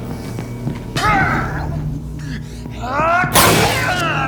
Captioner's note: grunting